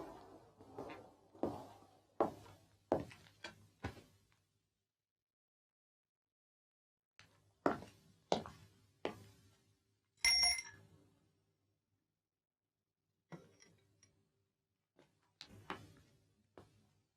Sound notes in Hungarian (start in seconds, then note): 4.9 csend; 10.2 kis csengetés